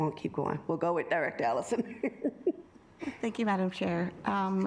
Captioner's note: chuckles